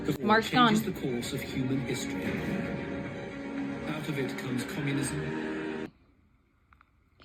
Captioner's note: video plays in background